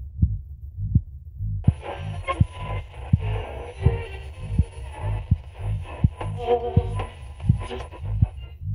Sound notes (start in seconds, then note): 1.6 radio static